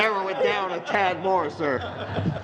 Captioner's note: laughter